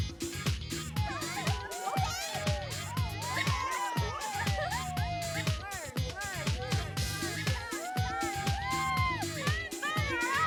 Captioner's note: crowd Cheering